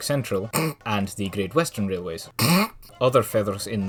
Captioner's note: snort; snort